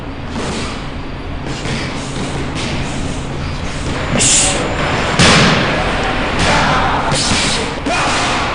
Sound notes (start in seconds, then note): 0.0 gym bustling; 3.8 thudding blows